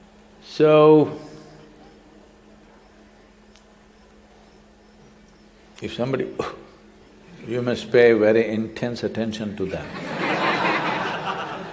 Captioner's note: laughter